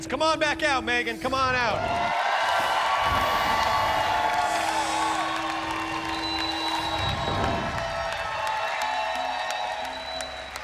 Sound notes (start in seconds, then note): 1.6 cheers and applause